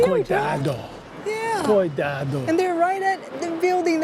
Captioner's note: in Portuguese